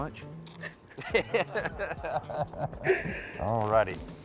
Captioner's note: laughs